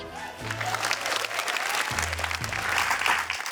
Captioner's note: cheering, applause